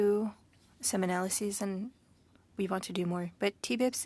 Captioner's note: speaking French